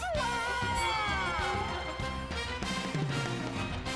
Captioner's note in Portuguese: bell dings